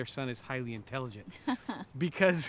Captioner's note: laughs